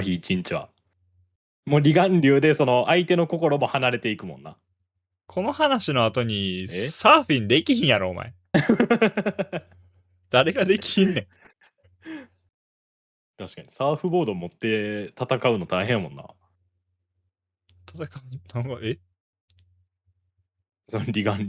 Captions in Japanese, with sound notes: 1 日はもうリ願でその相手の心も離れていくもんな。この話の後にサーフィンできひんやろお前 [笑い] 誰ができひんねん。 確かにサーフボード持って戦うの大変やもんな。 戦うえ竜と戦うのよ。サーフボード持ってさ。